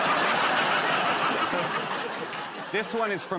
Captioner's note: laughter